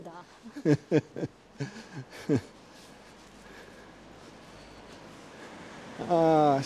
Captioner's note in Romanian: Râsete